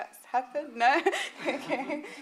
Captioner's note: laughing